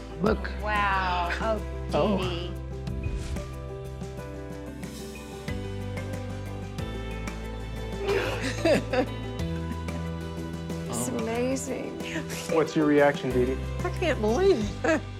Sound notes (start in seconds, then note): 2.4 bright music; 8.0 laughs